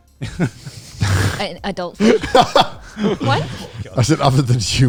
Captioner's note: all laughing